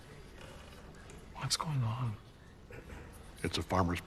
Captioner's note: whispering